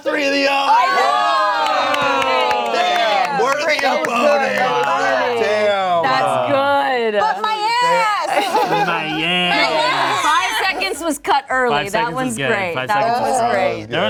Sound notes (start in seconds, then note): 0.1 cast exclaims